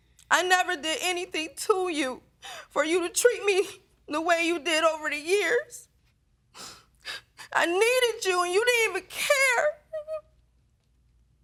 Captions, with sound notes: "I never did anything to you for you to treat me the way you did over the years. I needed you and you didn't even care. [sobbing]